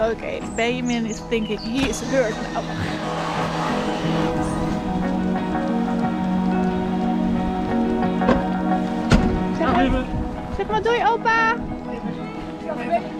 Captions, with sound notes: Okay, Benjamin is thinking he is good. (door slamming) (foreign language)